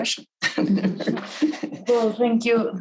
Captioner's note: group laughs